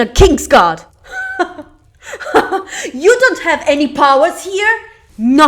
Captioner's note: chukle